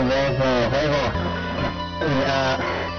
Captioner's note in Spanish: respiración